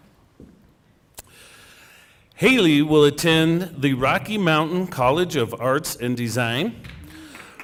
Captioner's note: cheering and applause